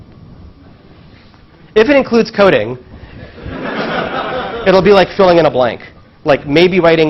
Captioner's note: laugh